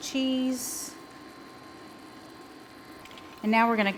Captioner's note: sauce simmering